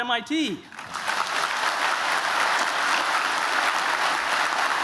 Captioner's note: applause